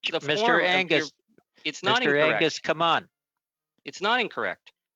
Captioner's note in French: voix de l'interprète